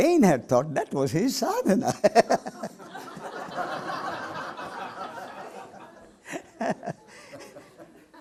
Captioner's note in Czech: smích